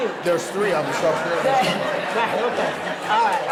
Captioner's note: audience laughing